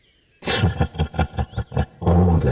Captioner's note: dark Chuckle